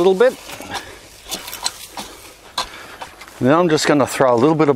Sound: rake shuffles

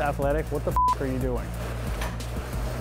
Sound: beep

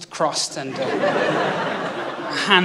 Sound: laughter

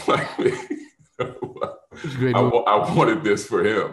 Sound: laughs

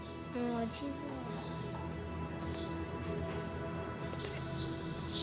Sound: man speaks in foreign language; boy speaks in foreign language

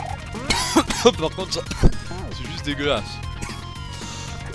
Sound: cough; cough cough

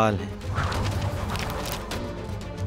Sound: pages rustle and blow

